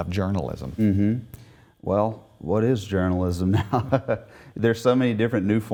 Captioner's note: laughs